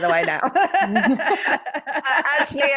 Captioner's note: chuckles